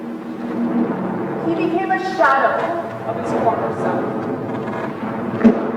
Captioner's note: sound of aircrafts, gunfire; sound of aircrafts, gunfire